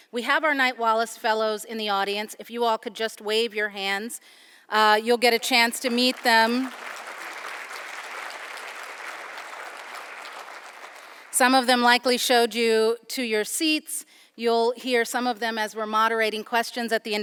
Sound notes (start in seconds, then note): 7.1 audience applauding